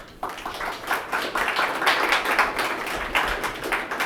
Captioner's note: audience applauding